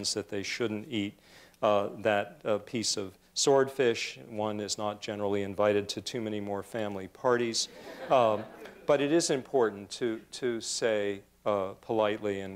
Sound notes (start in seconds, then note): 7.6 laughter